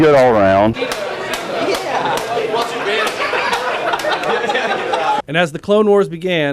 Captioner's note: laughing